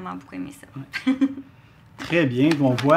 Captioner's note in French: rires